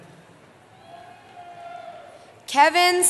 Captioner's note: cheering